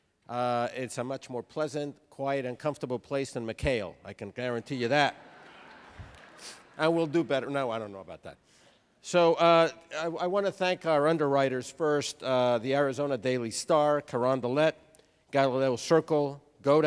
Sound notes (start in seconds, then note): 4.9 laughter